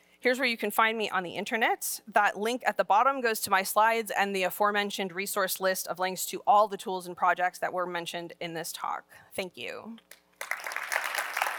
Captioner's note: applause